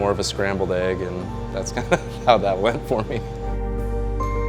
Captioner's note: laughs